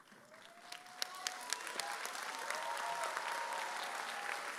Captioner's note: audience cheers